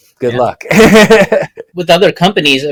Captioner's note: laughs